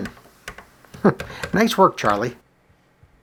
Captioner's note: chuckles